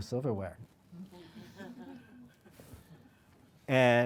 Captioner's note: audience laughing